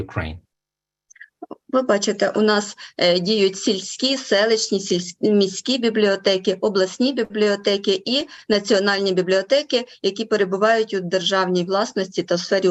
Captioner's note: foreign Language Spoken